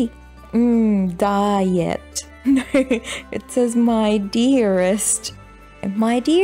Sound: laughs

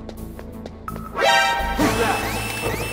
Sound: alert

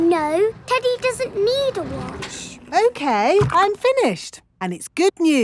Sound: none

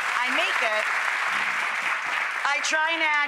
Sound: applause

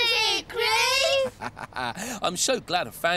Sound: Groove laughs

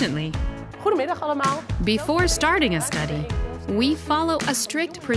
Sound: woman speaking dutch

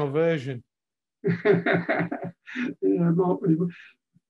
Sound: laughing

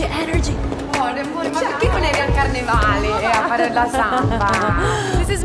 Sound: foreign language

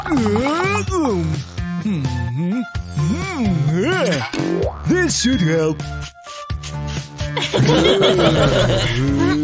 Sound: groans; laughing

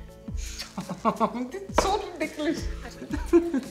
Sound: laughing

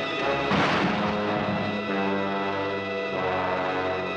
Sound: car thuds; dramatic music

